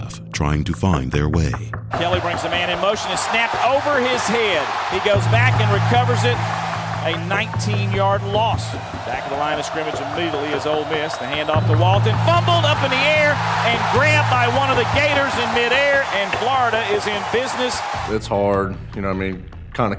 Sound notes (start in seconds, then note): 2.0 voiceover